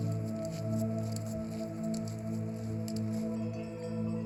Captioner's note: clicking; soft music